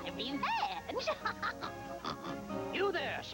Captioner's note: snorts